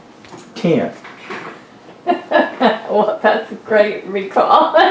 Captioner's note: laughs